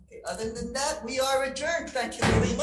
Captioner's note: gavel thuds